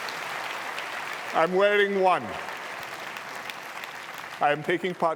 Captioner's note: laughter and applause; applause